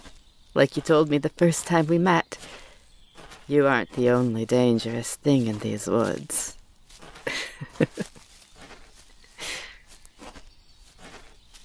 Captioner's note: laughs